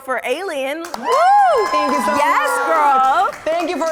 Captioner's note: cheering